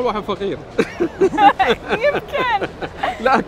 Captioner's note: laughing